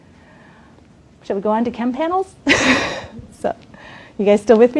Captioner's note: laughs